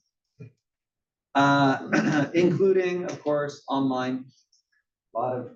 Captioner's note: cough